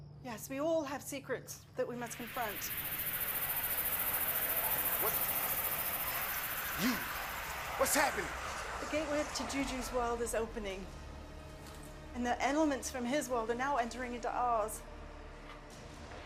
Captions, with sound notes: - Yes. We all have secrets that we must confront. (intense buzzing) - What? You, what's happening? - The gateway to JUJU's world is opening. And the elements from his world are now entering into ours.